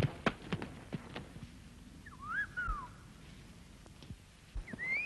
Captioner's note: whistling